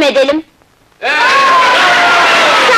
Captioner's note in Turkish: Alkışlar, bravo, yaşa sesleri